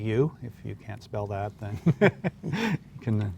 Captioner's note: laughs